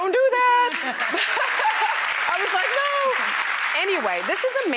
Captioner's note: applause